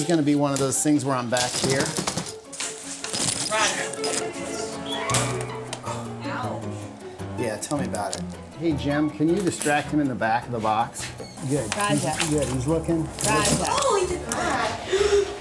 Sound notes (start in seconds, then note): 5.1 snaps; 14.3 gasps